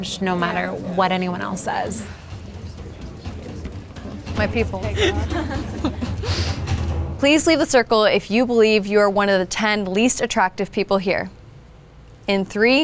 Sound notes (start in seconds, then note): 2.7 participants chattering; 5.5 participants laughs